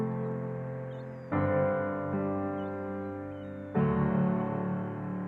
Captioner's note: seagulls caw in distance